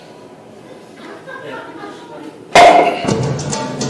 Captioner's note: audience laughing; bottle pops; upbeat music